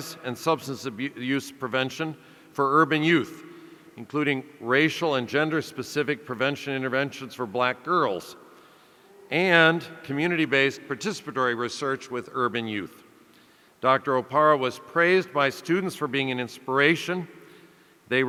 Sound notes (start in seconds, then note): none